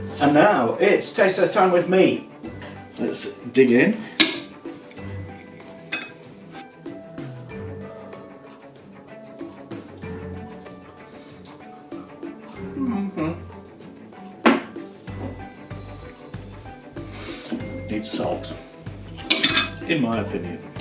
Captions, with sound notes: And now, it's taste test time with… me. Let's dig in. [ THE SOUNDS OF A MAN EATING VERY HOT POTATO ] Needs salt, in my opinion.